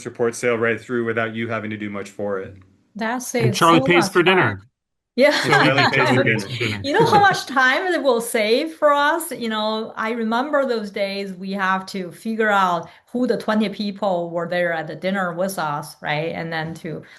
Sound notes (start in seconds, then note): 5.3 chuckles; 5.3 laughing